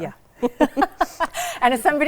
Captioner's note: both laughing